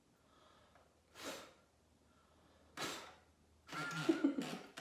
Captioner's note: breathing sharply